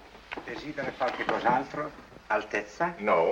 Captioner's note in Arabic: الصوت المنطوق باللغة الإيطالية